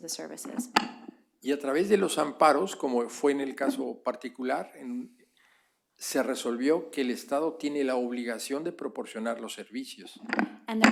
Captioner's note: speaking spanish